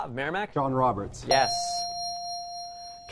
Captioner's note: player buzzer